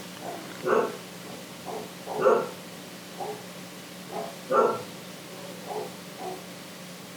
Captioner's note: continued, incessant dog barking